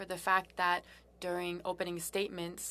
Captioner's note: speaking french